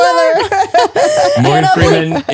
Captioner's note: laughing